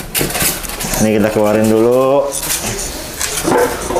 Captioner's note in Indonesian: suara styrofoam